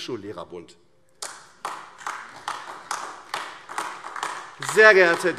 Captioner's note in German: Beifall AfD